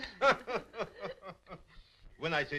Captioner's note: laughing